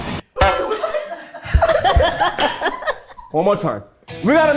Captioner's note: everyone laughs